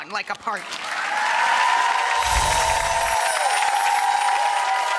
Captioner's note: crowd applauds